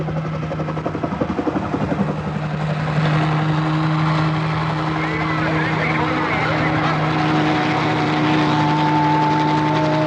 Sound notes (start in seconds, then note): 4.8 chattering